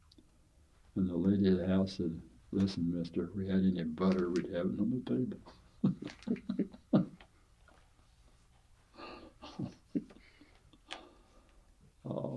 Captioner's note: laughs